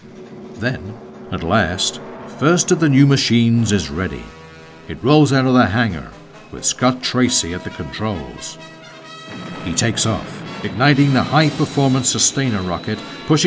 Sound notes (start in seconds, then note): 0.3 dramatic music; 9.2 jet rumbling